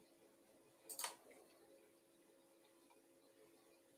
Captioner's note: mouse clicking